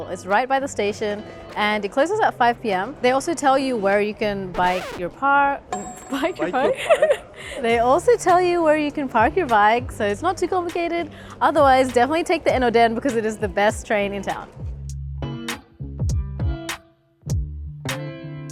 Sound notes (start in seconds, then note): 6.7 laughs; 15.2 mellow music